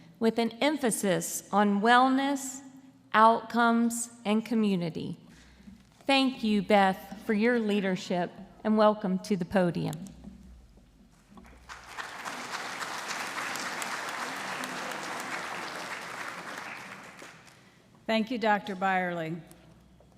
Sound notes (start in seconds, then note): 11.4 audience applauding